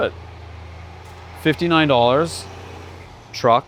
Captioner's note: truck engine revving